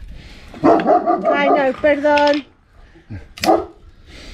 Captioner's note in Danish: hund Gøende